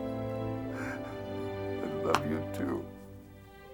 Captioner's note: light orchestral music; sobs